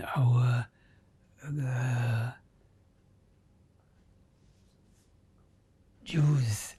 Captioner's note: pauses 4 seconds